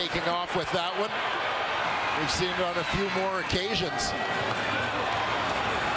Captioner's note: crowd Noise